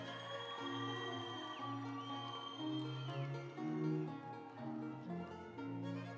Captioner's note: audience cheering; instrumental music